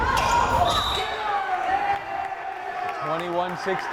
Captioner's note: whistle blares